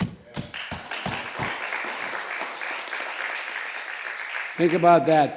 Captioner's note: applause